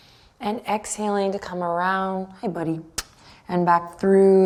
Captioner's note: kisses